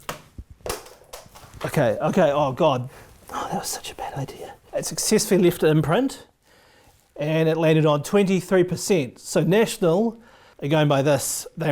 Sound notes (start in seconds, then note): 0.0 arrow bangs on the floor; 0.1 arrow bangs against the board